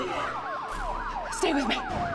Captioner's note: sirens wailing